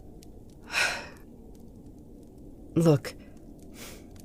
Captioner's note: sigh